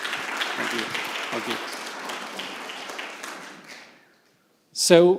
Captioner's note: audience Applauds